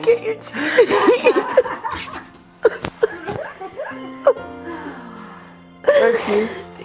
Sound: emotional sounds

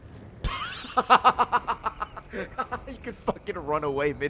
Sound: laughs

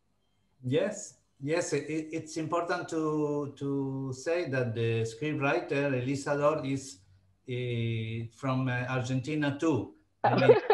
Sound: all laughing

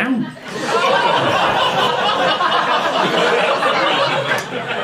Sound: audience laughing

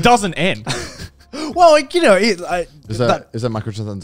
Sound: chuckling

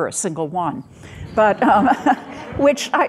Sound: audience laughing

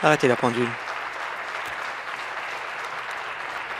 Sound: applause

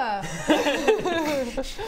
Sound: laughs

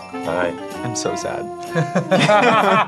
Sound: both laugh

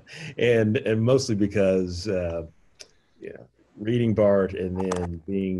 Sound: laughing

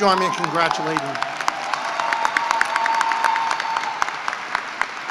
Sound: cheering and applause

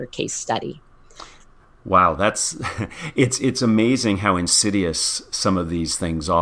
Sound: laugh

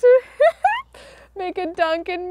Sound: laughs

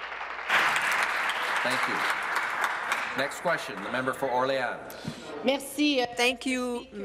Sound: applause

